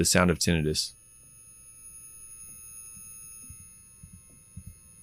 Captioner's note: high pitch ringing